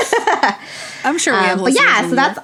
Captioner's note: both laugh